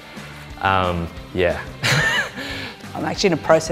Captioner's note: chuckles